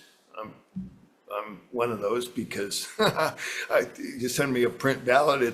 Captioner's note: laughs